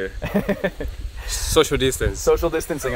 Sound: laughs

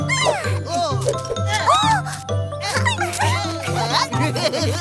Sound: sounds of burrs falling to the grass

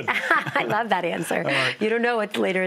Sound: laughs

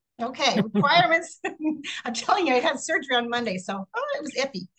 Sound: laughs

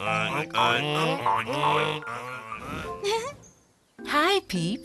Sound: pigs oinking

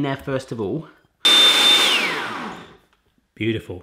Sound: blender whirs

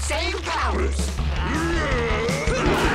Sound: both grunt

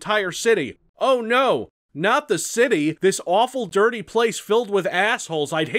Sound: sarcastically

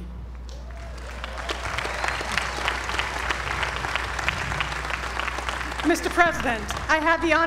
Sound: applause

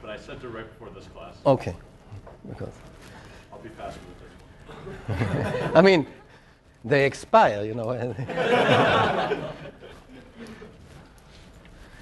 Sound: laugh

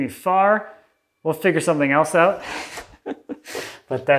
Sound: laughs

